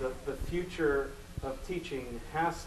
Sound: none

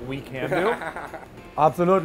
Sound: laughs

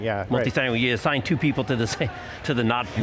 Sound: laughs

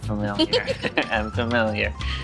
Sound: laughing

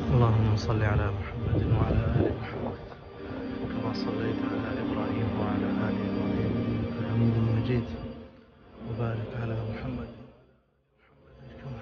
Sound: reciting Drood o Salam

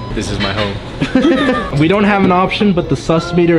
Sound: laugh

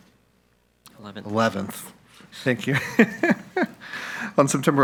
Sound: laughs

